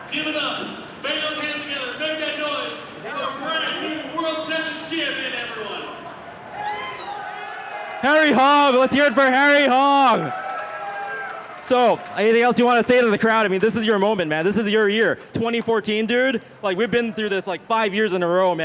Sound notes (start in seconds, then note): 10.4 crowd cheers